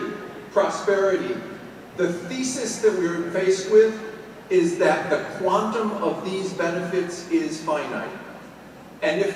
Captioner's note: none